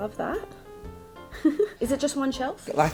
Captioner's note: giggles